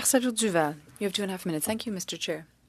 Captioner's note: speaking French